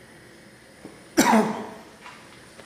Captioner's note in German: hustet